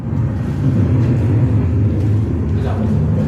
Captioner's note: aircraft engine